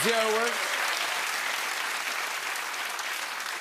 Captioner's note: applause